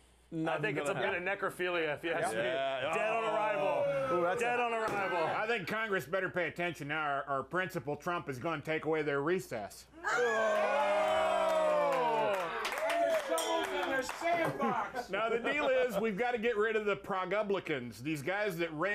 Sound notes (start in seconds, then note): 13.2 bell rings; 13.8 audience cheering